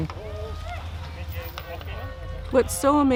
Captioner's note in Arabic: هتاف المتظاهرين